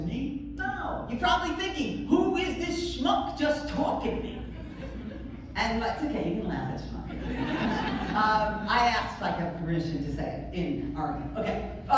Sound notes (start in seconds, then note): 4.2 laughter; 7.2 more laughter